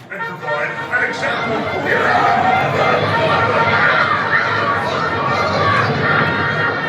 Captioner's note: trumpets blaring; Muppets clambering